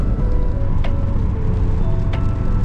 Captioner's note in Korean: 갑자기 소나기